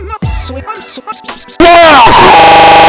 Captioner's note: Michael Gagging in Glitchy EARRAPE